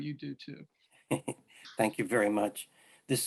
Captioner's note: chuckles